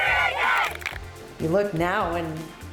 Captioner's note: team claps